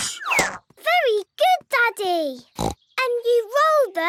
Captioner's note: snorts